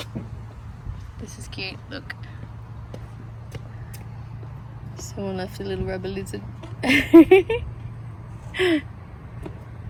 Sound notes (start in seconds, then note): 6.8 giggles